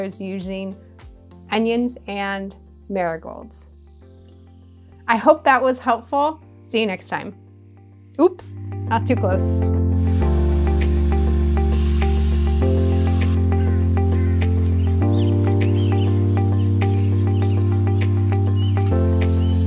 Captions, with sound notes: using onions and marigolds. I hope that was helpful. See you next time. Oops. Not too close. (gentle music) (birds calling)